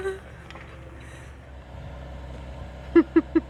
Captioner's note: laughter